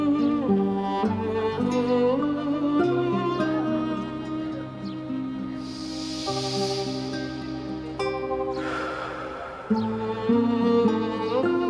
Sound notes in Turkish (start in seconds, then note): 5.6 Derin bir nefes alıp kokluyor